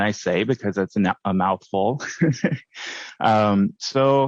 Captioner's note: laughs